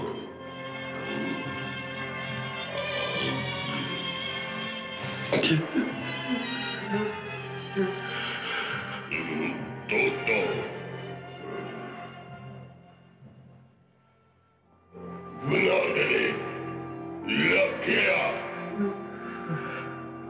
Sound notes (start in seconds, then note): 4.8 Eegah crying